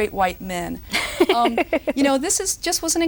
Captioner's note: roaring laughter